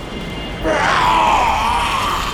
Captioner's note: roar/Yell